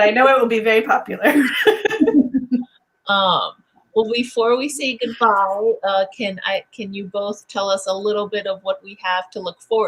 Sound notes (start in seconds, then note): 1.4 laughing in unison